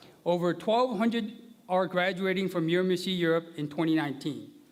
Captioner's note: none